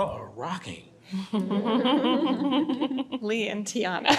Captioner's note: panelists giggling